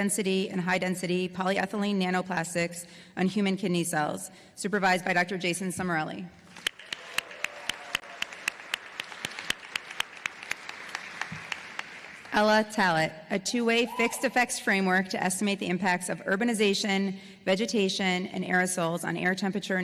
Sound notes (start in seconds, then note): 6.5 applause